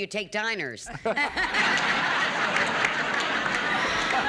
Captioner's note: laughter